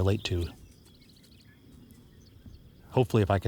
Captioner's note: insect chirping